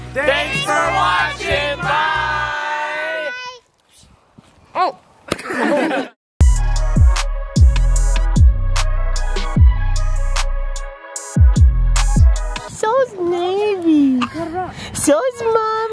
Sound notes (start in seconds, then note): 5.3 all laughing; 6.4 upbeat tempo playing